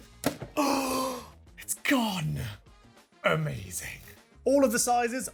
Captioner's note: gasp!